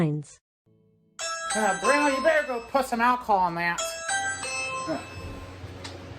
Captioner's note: ring doorbell goes off